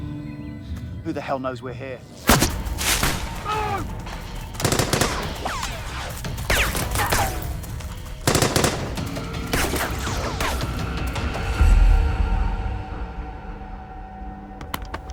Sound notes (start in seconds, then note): 2.2 gunshot blasts; 4.6 gunshots blasting